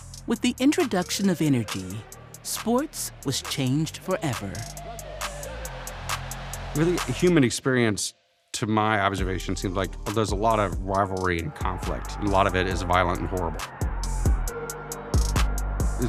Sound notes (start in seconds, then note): 5.5 audience cheering; 13.8 dramatic music